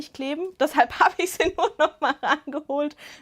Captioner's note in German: Gelächter